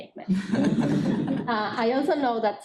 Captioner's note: laughing